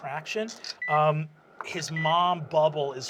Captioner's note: sound of beeping medical equipment